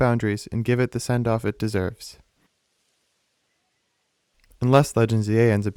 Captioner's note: beat